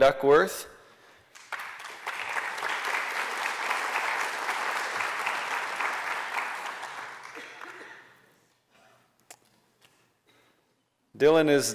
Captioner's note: applause